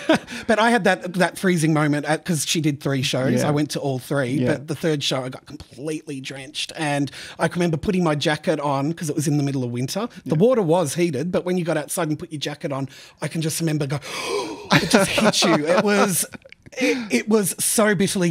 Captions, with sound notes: But I had that that freezing moment because she did three shows, I went to all three. But the third show I got completely drenched and I remember putting my jacket on because it was in the middle of winter. The water was heated, but when you got outside and put your jacket on, I can just remember going [gasps]. [Laughs] It just hit you, it was so bitterly cold.